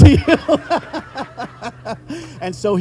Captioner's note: all laughing